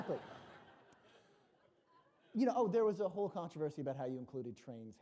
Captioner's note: laughter